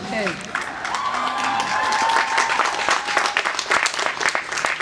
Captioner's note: cheers and applause